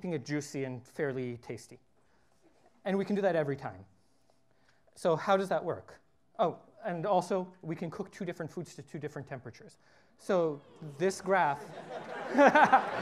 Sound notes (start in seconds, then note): 9.6 laughter